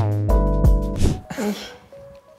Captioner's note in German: Lachen